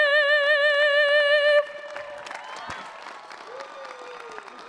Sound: audience cheering

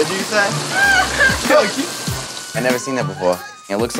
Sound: woman laughs

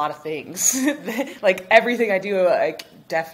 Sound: chuckles

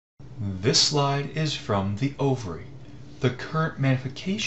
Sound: voiceover

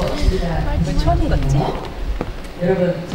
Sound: heart racing

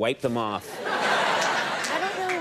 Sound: audience laughing

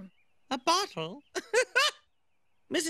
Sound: laughs

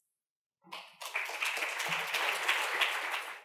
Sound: clapping

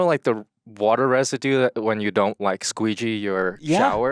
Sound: none

